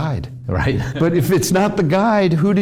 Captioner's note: laughs